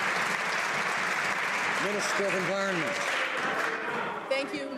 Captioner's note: some Applause